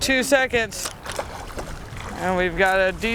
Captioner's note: splashing water